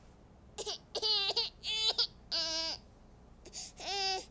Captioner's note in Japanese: 泣き声; 笑い